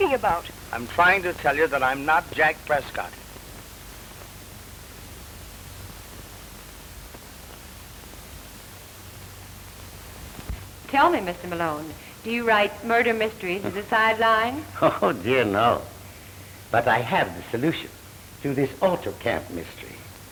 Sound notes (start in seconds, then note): 14.8 laughs